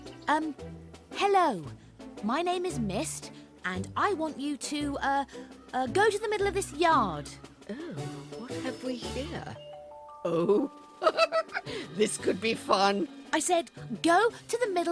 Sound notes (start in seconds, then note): 10.9 chuckles